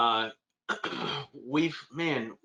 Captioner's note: clears throat